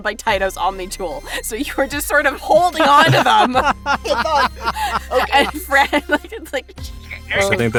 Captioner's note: laughs